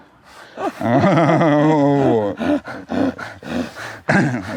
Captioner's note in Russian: смеётся